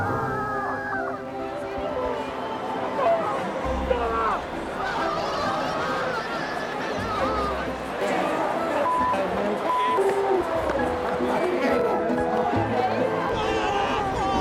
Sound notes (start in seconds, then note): 0.0 screams and cheers